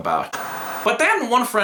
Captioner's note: static